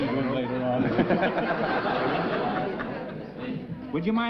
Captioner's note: chuckling